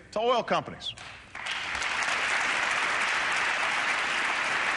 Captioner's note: applause